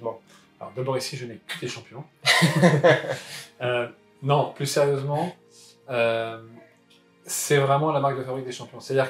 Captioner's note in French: rires